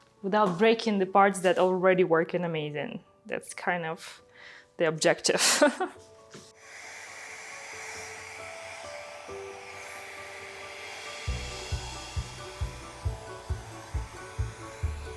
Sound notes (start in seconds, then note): 5.8 chuckles; 6.5 blower whooshing; 6.7 gentle mellow music